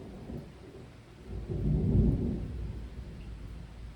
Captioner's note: deep rumble of thunder